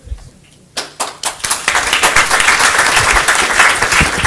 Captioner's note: applause